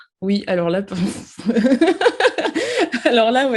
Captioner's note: laughs